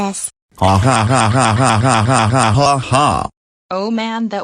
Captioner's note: both laughing